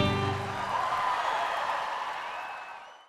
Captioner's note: audience cheering and applauding